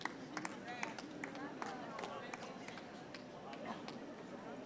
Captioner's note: audience chattering